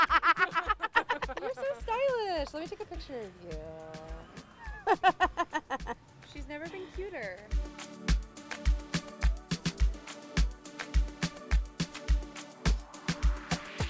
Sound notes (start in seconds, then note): 0.0 laughs; 4.6 laughs; 7.9 upbeat music